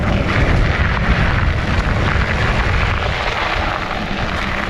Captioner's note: gravels rumbling